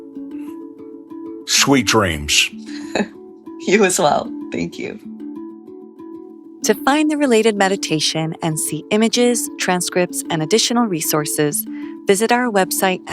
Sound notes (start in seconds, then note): 2.6 laughs; 5.3 light music plays